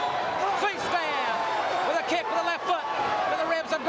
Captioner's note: crowd cheering